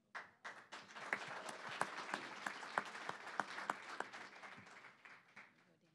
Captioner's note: applause